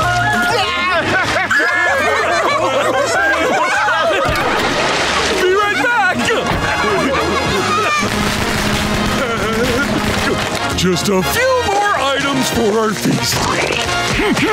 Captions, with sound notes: [laughing] Be right back. -[food popping] -[chuckling] Just a few more items for our feast.